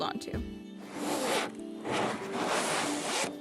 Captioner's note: zipping sounds